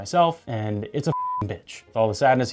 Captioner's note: beep